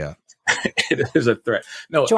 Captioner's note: laughs